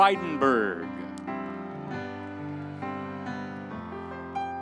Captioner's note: audience applauding